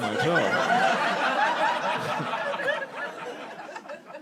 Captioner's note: audience laughing